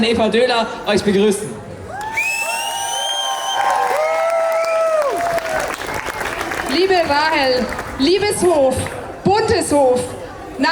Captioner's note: cheers